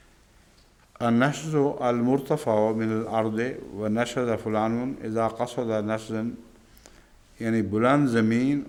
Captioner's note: Arabic